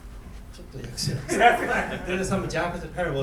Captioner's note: coughing; laughing